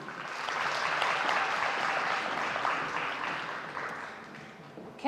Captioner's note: audience applauding